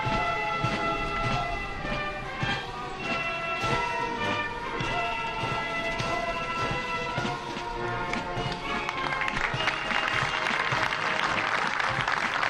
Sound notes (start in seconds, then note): 0.6 patriotic music; 8.7 applause